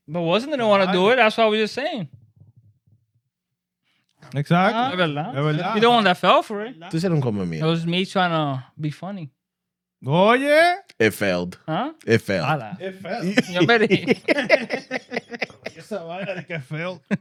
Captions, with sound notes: But wasn't gonna wanna do it? That's all we were saying. Exactly. You don't want that fell for it. (Speaking In Foreign Language) It was me trying to be funny. Oh yeah. It felled. Huh? It fell. It fell. (Laughing) Yes sir, I thought it could fell.